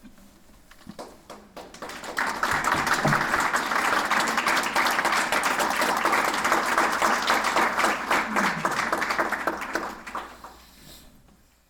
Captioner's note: applause